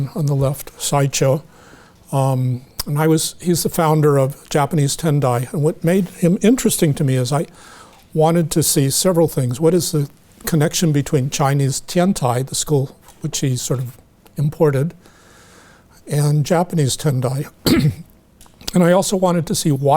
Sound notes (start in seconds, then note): 17.6 clears throat